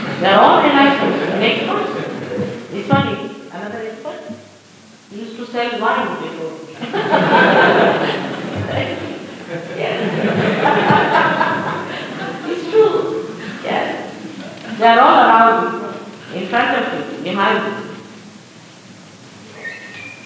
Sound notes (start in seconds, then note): 12.4 laughs, general laughter